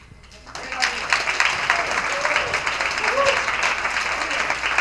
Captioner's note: attendees applauding